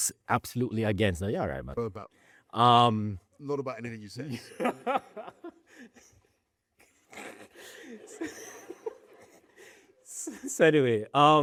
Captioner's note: laughter